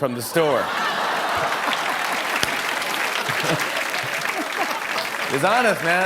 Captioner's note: laughter